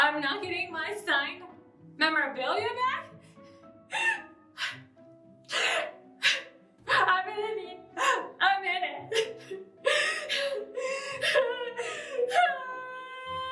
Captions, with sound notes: I'm not getting my signed memorabilia back? (crying) I'm gonna need... a minute. (crying hysterically)